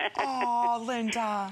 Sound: laughter

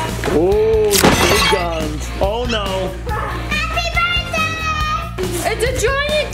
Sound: glass shatters

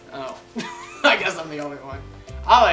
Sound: laughs

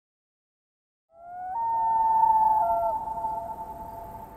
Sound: loon call

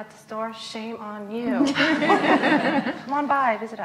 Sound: laughs

